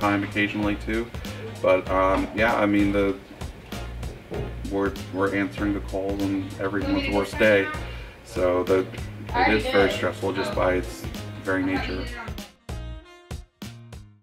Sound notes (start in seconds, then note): 6.6 woman speaking in background; 12.8 upbeat music